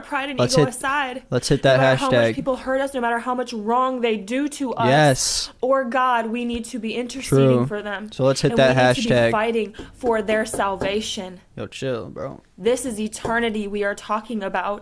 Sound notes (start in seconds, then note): 9.8 knocking on wood; 13.2 knocks on wood